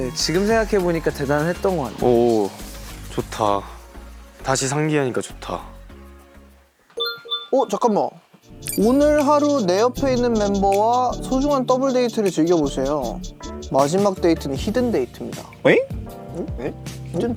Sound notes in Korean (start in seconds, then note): 7.0 띠링